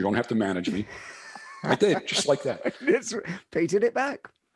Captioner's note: laughs